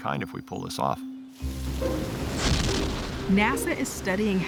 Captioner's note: exhaust blasts